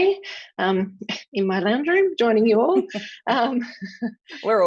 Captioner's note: laughs